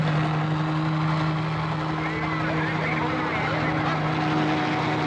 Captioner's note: chattering